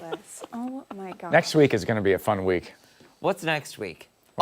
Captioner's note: laughter